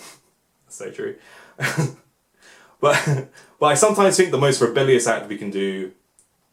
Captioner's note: laughs